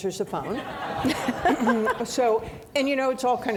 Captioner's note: audience laughing